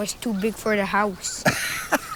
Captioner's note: Gene laughing